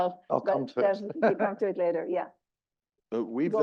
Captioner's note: laugh